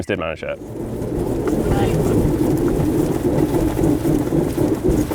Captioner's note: aircraft whirring